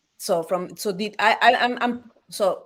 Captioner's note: speaks Spanish